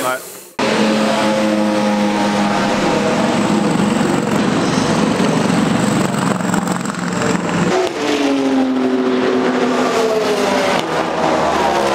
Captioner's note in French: Son de moteurs